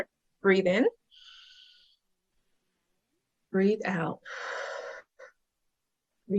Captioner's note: inhales; exhales